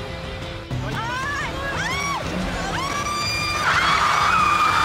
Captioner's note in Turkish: Kızlar çığlık atıyor